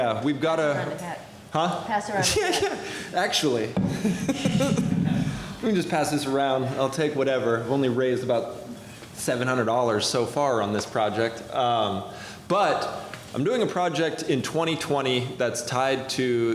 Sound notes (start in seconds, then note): 3.8 laughter; 3.9 laughs